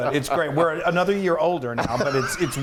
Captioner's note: laughs